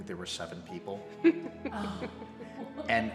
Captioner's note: both laughing